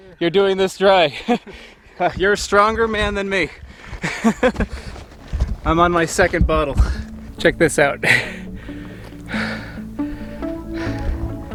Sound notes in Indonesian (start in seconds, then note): 4.0 tertawa